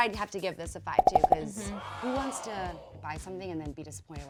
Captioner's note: popping; wowing